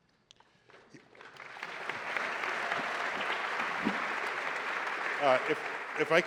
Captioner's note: applause